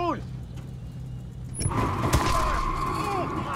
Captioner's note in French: crissement de pneus